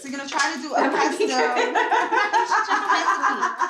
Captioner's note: laughing